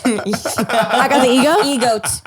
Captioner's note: laughing